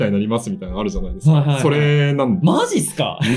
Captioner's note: laughs